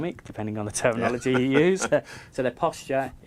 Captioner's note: laughing